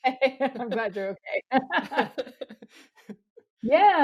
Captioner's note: laughs